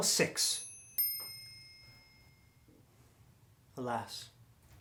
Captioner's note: bell chiming